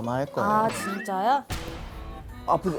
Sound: smack

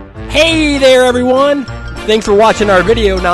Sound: voiceover

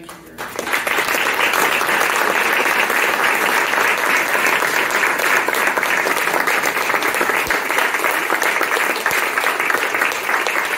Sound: applause

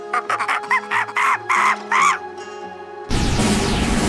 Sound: uplifting music; monkey screams; drum rolls

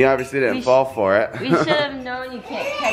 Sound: laughs

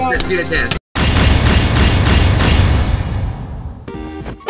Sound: dramatic booms

